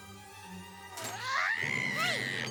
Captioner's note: squawks